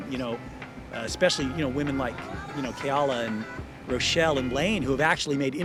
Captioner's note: none